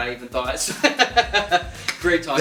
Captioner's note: laughter